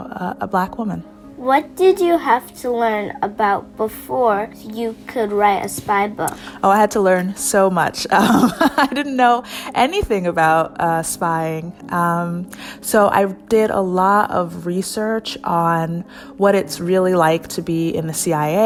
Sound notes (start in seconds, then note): 8.1 laughs